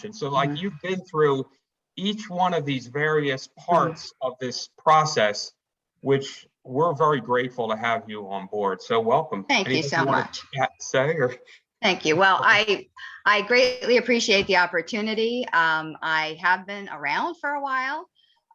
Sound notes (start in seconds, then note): 9.6 mumbles